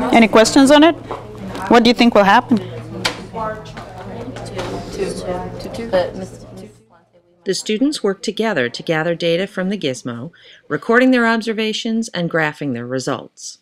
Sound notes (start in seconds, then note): 3.9 students chatting; 7.6 voiceover